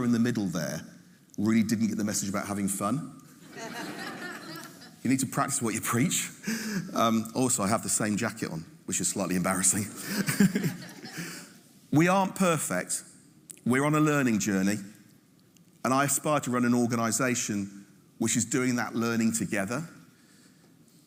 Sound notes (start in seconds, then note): 3.5 audience laughing; 10.0 laughing